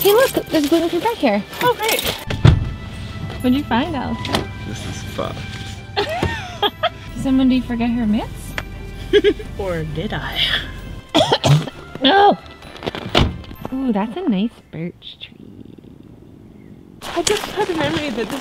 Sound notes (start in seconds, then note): 5.9 laughter; 9.1 laughter; 11.0 coughing; 13.1 car door slamming shut